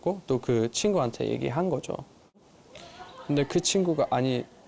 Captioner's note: Korean